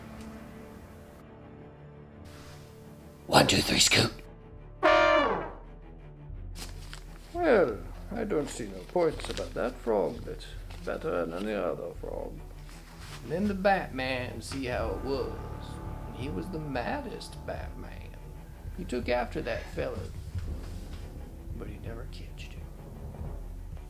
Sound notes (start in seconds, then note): 0.2 thrilling music; 4.7 dramatic honking